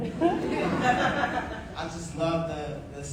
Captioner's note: audience laughing